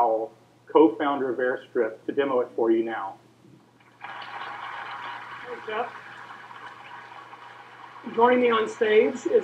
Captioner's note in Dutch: applaus